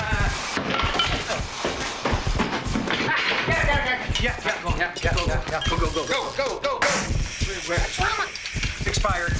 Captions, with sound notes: - Uh... (tools clanking) - Ah, got it, got it, got it! Yeah, yeah, yeah, yeah... - Go, go, go, go, go, go. - Go, go, go, go! (fire extinguisher hissing) Mama! It's expired!